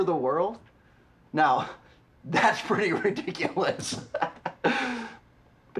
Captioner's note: laughing